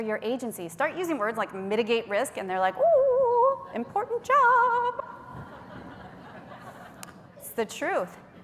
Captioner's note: laughter